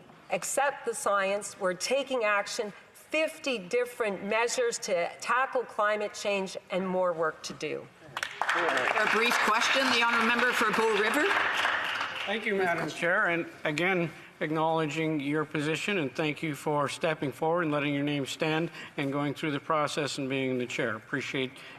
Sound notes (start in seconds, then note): 13.0 applause